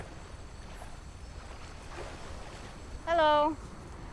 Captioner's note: water splashing